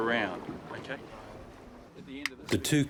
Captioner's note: indistinct chattering